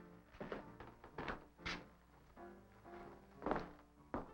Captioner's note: none